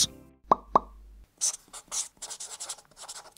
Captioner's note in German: Ploppgeräusche, Stiftekritzeln